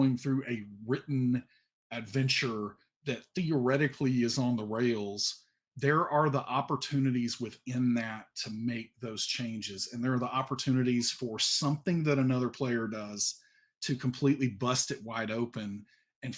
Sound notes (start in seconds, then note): none